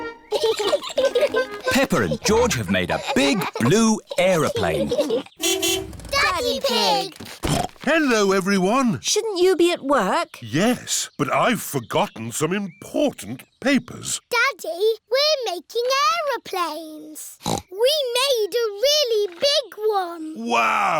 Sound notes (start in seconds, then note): 0.3 both giggling; 5.3 horn honks; 7.1 snorts; 17.4 snorts